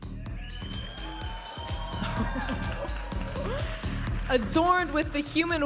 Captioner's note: audience applauding and cheering